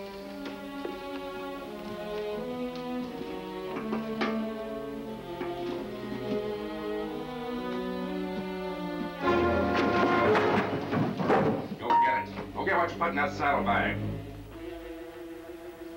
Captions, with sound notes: (intense music) (thuds, pot clangs) Go get it, go get what you put in that saddlebag.